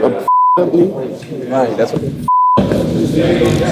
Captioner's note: beep